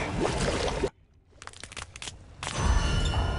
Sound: cracking

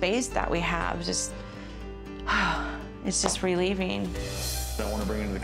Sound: sighs

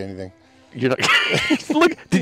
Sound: laughs

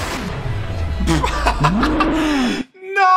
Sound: laughter

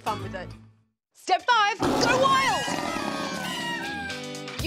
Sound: party whistles

